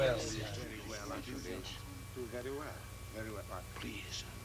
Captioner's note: all congratulating